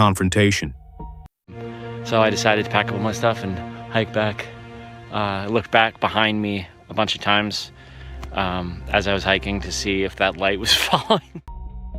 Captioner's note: original forest audio